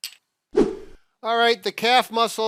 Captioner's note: swipe sound effect